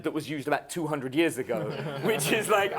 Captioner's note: laughing